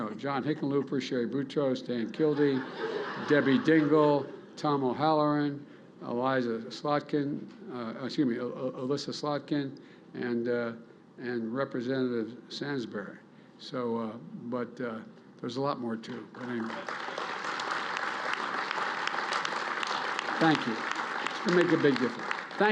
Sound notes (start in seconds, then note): 2.1 laughter; 16.1 applause